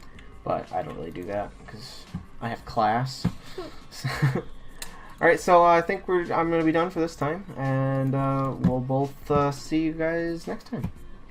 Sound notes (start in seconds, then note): 3.4 both laugh